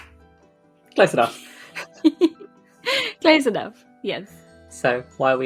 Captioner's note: laughs